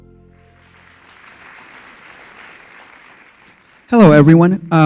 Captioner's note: audience applause